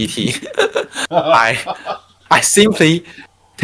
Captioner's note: laughing